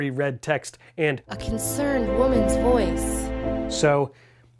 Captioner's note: in woman's voice